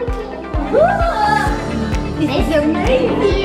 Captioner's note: kids wowing